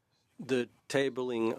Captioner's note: speaking French